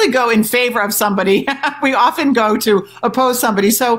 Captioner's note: chuckles